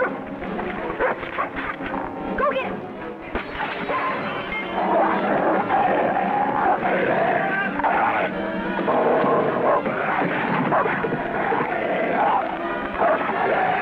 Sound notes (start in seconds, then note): 0.9 dog barks; 3.4 glass breaks; 4.8 dog snarls; 10.9 dramatic music